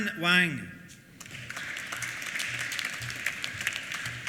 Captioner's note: applause